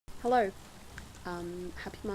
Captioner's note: steady rain in the background